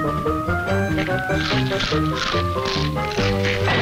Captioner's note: mouth crunching